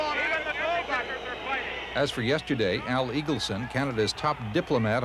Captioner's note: crowd boos